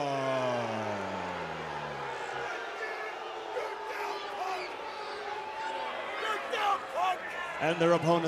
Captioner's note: crowd cheering